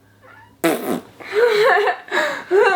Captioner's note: blows raspberry; laughing